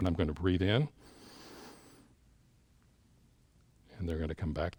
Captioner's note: inhales